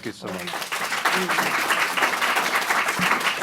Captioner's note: applause